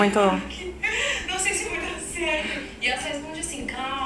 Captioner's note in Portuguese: fingindo choro